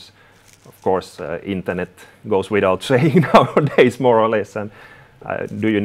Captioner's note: chuckles